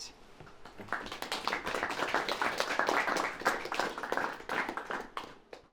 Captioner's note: group applauding